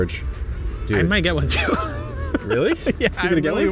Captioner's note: laughs